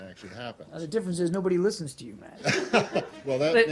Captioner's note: laughter